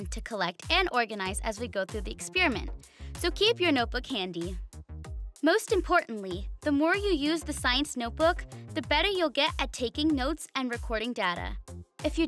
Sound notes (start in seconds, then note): none